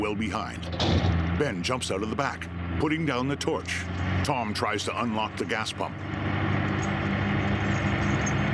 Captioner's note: engine idling